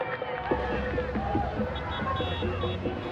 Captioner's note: car horns